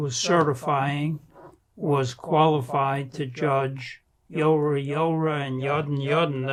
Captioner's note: non-english